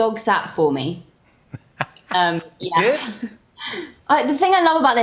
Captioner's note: laughs